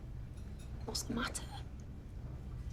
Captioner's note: whispers